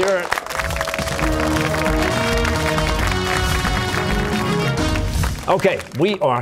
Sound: cheers and applause

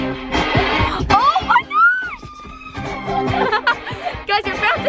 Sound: laughing

